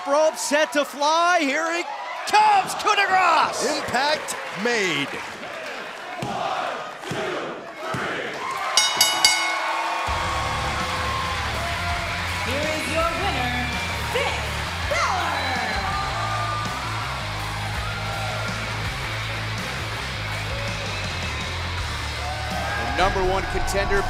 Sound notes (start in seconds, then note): 8.7 bell rings; 10.2 cheers & applause